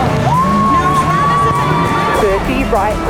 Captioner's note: cheering; engine revving